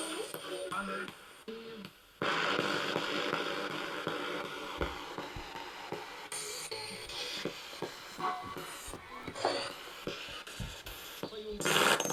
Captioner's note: sound of the Spirit Box in the background